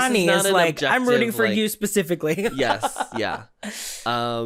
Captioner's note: giggles